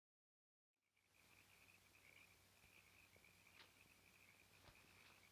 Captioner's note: frogs croaking